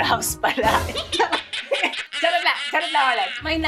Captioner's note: laughs